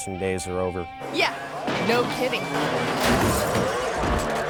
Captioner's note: bike thuds; bike crashes; pounds